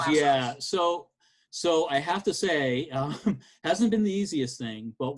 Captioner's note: chuckles